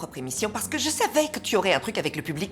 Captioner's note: none